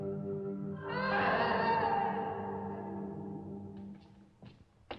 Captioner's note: woman wailing continues